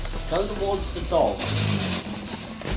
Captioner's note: the dog growls